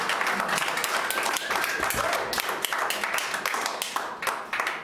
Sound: applauding

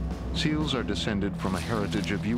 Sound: voiceover

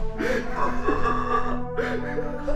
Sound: guttural croaking

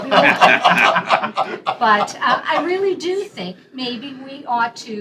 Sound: laughter

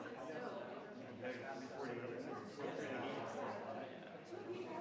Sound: crowd chattering continues

